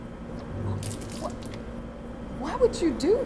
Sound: water splashing

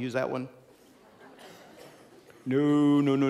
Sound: congregants laughing

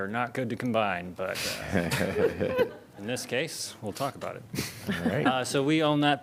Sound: laughter

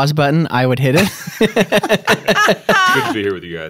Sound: laughter

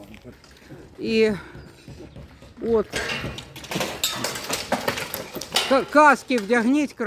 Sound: sound of debris falling and breaking

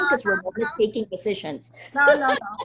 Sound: laughs

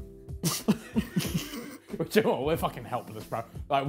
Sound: laughing

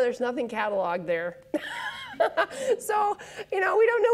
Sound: laughs

